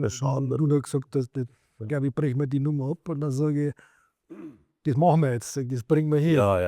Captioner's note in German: räuspern